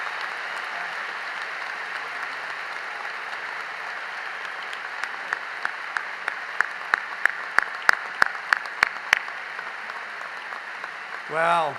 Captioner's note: applause